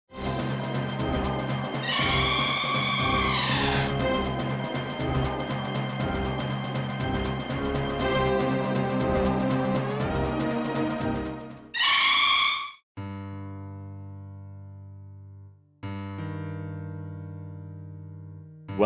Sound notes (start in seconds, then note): 1.8 ReDead screams; 11.7 ReDead screams AGAIN